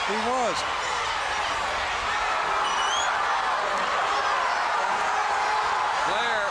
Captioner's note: crowd cheering